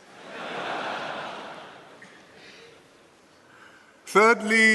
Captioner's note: laughter